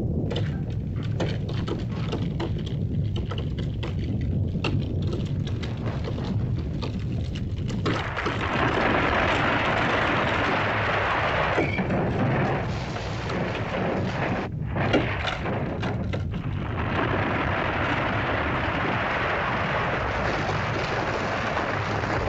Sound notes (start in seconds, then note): 0.2 rocks clattering; 0.2 volcano rumbles; 7.8 rock crashing; 14.4 rumbling sound; 16.6 crashing sound; 20.6 rumbling & crashing sounds